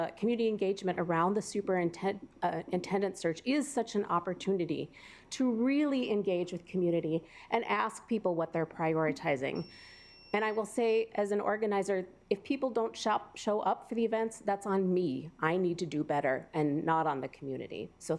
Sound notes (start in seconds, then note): 9.5 alarm beeping